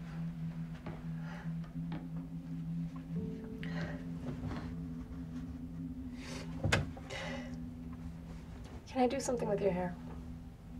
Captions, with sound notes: (Claire sighs) (gentle music) (Claire sniffles) - Can I do something with your hair?